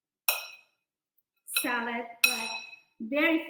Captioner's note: spoon scraping